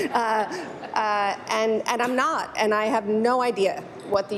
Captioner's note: laughter